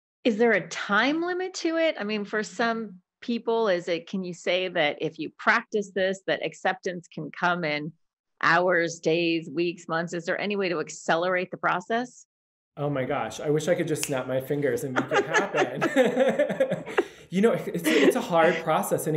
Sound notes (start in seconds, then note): 14.8 laughing